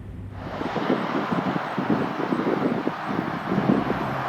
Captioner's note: truck whirring